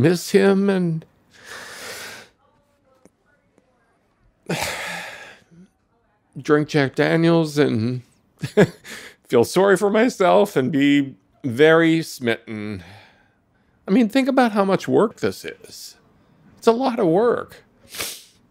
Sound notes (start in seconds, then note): 4.5 sigh; 8.4 laughs